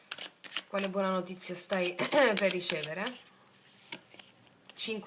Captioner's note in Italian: schiarire la voce